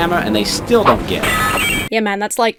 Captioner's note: metal clangs